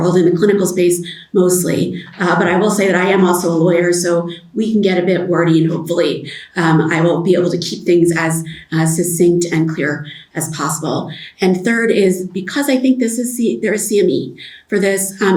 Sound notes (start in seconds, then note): none